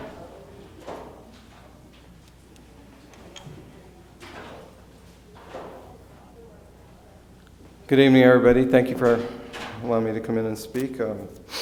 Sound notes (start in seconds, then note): 0.1 door opening; 6.0 door closing